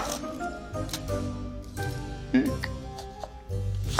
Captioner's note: chopping